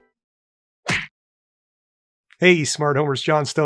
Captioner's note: smacking